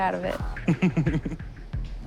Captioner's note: laughs